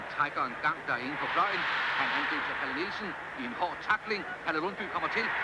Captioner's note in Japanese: テレビから聞こえるサッカー⚽️の盛り上がり